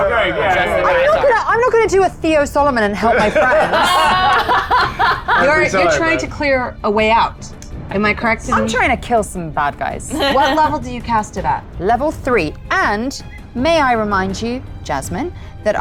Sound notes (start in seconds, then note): 3.0 laughs